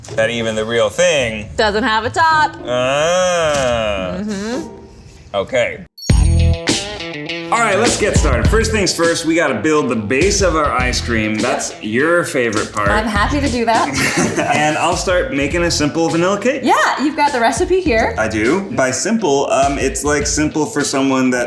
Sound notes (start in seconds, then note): 6.0 rock music; 13.8 laughs